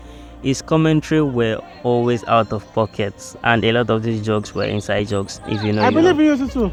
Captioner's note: laughs